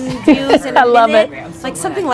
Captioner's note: laughs